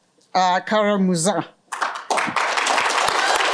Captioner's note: applause